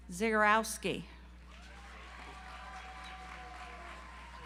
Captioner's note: audience applauds